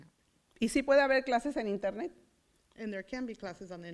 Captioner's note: foreign language